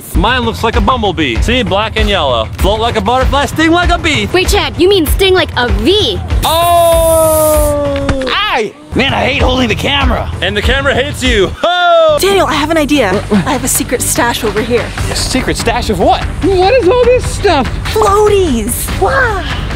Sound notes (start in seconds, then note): 6.5 screaming